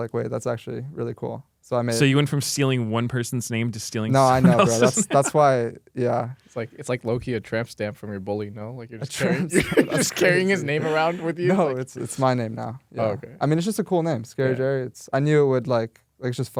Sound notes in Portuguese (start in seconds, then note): 4.3 risos; 9.3 risos